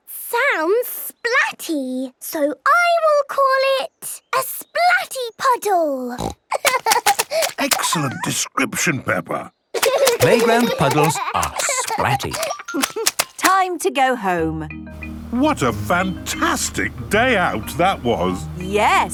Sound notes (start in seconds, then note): 6.2 snorting; 6.5 giggling; 9.7 giggling